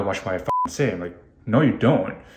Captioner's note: beep